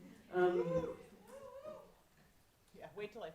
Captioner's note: audience cheering